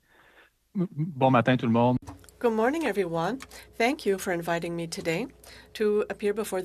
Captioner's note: speaking French